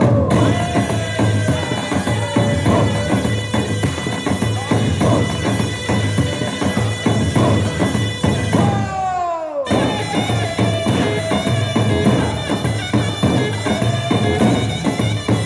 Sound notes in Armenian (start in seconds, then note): 8.6 ծափահարություն